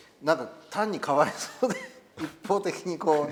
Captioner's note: laugh